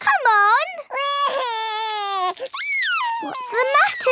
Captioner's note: crying